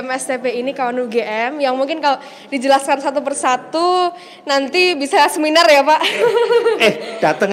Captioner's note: laughing